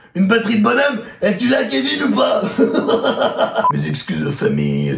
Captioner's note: redneck laughter